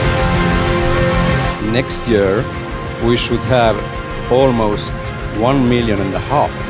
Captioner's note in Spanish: Voz de hombre